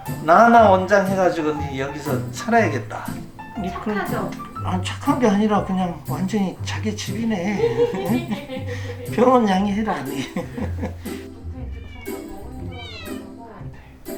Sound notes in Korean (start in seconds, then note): 7.4 웃음; 10.9 웃음